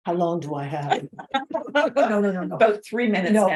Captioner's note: both laughing